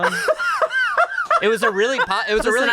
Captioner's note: laughs